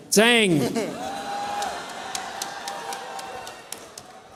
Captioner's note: cheers